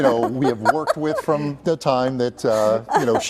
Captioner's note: laughter